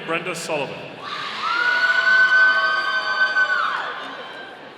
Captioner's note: audience cheering